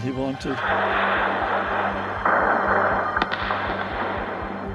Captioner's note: explosions roar